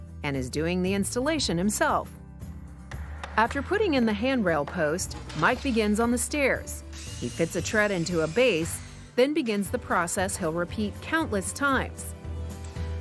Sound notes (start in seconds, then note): 2.8 hammering; 6.8 drilling